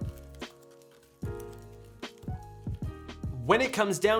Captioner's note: material crackling